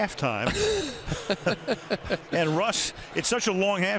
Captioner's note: laughter